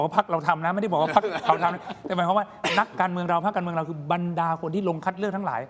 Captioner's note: laughter